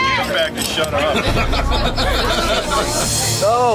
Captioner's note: chatter